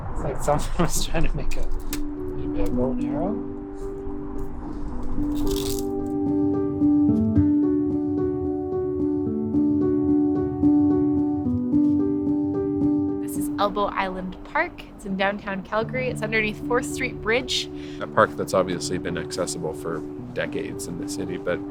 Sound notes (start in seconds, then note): 3.8 gentle music; 5.6 branch squeaking